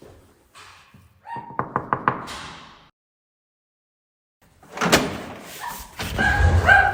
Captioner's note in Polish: szczekanie psa